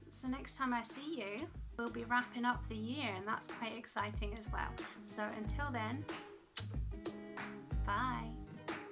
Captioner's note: kiss